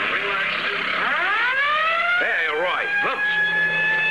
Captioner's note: siren Wailing